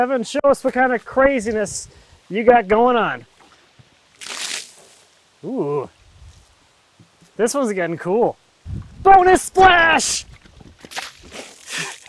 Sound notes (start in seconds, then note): 4.0 water splashes; 9.9 water splashes